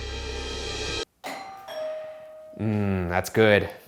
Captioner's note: doorbell rings